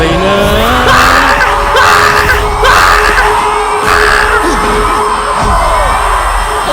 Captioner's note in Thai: กรี๊ด